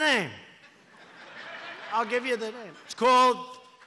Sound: laughter

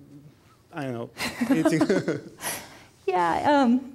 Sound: both chuckling

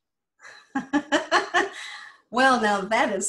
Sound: laughs

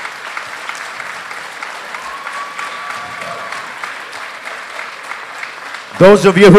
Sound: applause

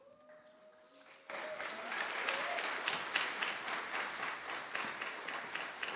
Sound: audience applause

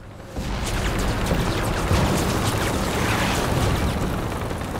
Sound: rapid gunfire exploding

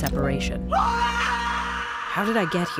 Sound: screaming

